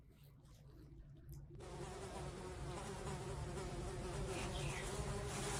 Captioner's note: buzzing of flies